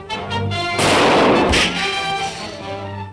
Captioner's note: gunshots